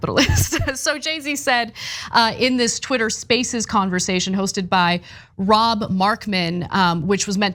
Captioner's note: laugh